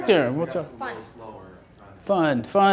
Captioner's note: voiceover